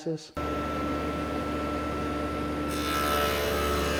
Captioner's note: saw buzzing